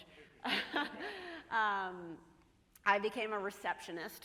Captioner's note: chuckles